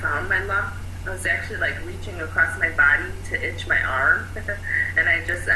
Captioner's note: laughing